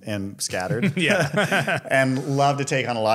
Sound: both laugh

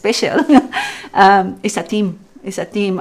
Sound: laughs

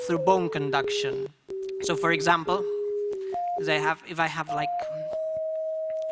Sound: frequency sounds

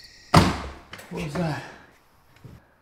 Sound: gun firing

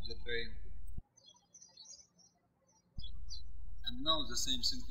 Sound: birds chirping

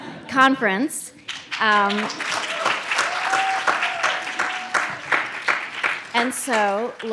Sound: audience claps; audience cheers

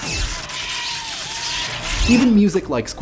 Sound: screaming

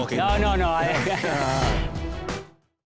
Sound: laughter

